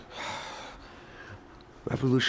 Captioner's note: annoyed sigh